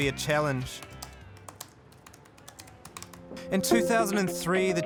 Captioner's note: typing